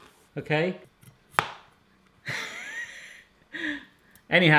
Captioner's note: laughs